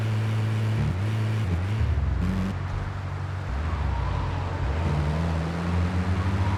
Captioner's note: plane engine roaring